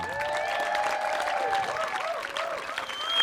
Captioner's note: cheers